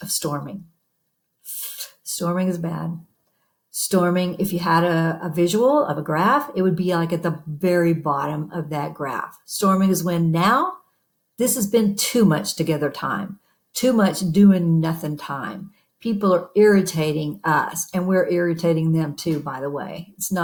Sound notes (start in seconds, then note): 3.3 breathes in